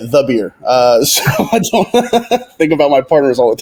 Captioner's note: laughing